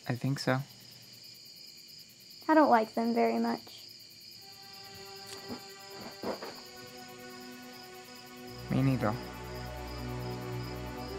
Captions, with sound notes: - I think so. - I don't like them very much. (gentle music) (insects chirping) - Me neither.